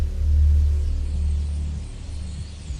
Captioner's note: birds twittering